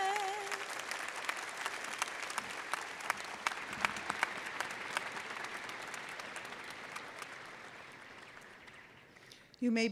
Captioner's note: applause